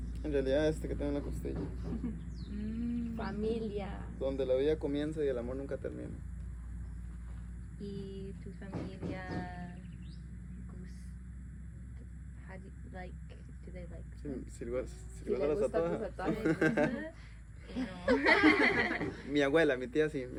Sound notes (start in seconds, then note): 17.7 laughter